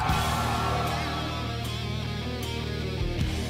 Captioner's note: crowd cheering